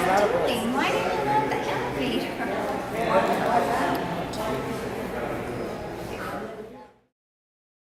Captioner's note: background conversations